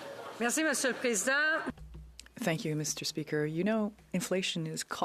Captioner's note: speaking French